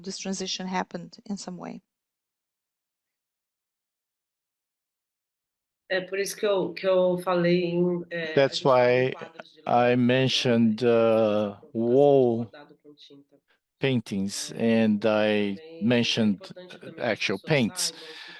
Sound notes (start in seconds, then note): 6.3 speaking in Portuguese